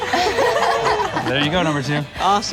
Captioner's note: group laughing